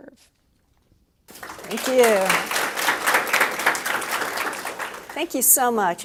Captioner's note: applause